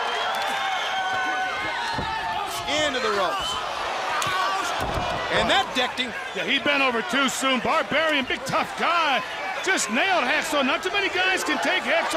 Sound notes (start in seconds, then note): 0.1 crowd cheering; 4.3 crowd chatter